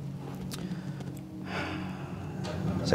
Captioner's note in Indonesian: sigh